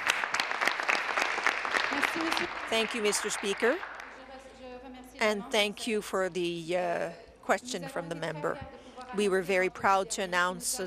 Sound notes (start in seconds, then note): 4.6 applause